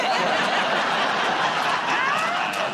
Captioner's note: laughter